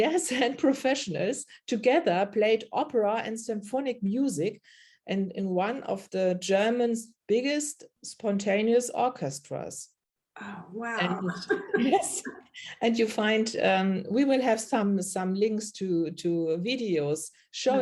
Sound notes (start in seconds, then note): 11.0 laughs